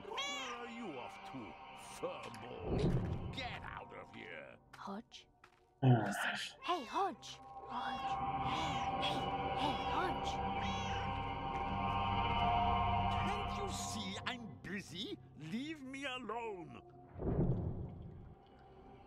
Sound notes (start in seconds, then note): 0.0 Hodge meows; 5.8 sighs; 6.0 Hodge meows; 8.4 Hodge meows; 10.5 Hodge meowing